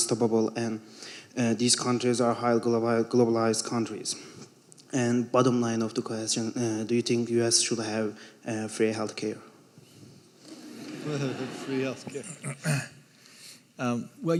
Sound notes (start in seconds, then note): 10.4 audience laughing